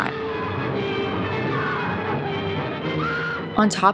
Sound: screaming

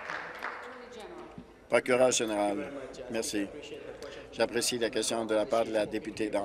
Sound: applause

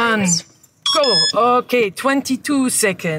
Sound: timer pings

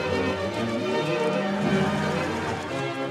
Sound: horses neigh; cows mooing

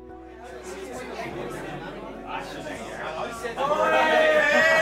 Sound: happy chattering; crowd

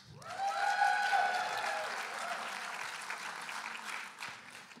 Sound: applause and cheering

